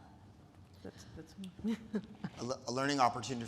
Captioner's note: laughs